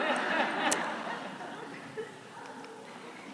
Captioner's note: laughter